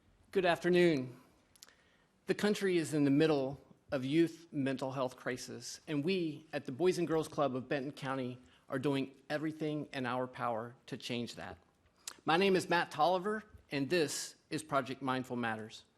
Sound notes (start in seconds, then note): none